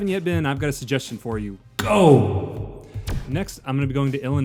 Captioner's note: godly voice